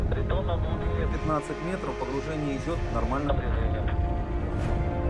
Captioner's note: man speaking in foreign language